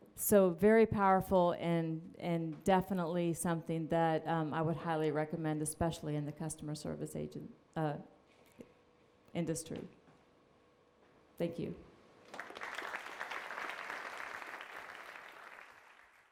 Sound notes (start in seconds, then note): 12.2 applause